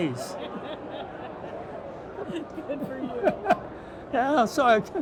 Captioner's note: laughing